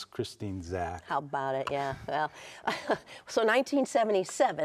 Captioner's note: chuckles